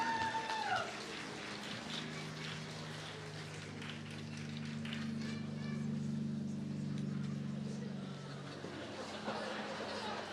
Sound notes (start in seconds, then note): 1.6 applause